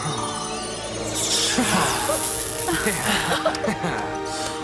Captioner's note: gasping and laughing